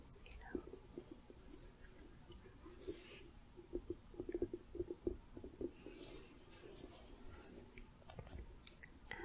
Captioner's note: gentle shuffling, tapping